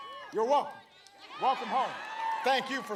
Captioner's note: applause